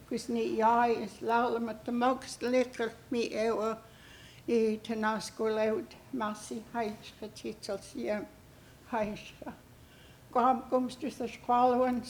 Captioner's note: speaking Hul'q'umi'num